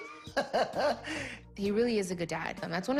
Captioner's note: laughs